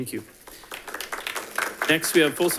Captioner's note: audience applauding